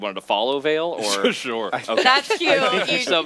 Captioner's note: he laughs